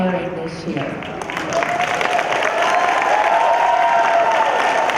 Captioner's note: cheering